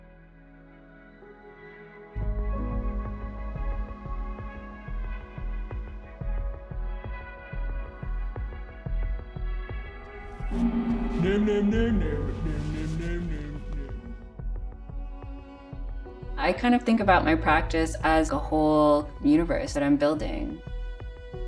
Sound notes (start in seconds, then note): 11.2 character speaking gibberish